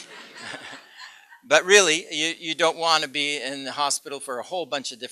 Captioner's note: laughter